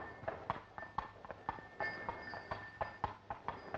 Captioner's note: bells ringing